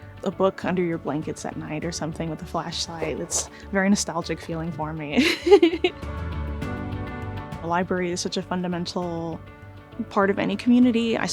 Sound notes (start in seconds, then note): 5.2 laughing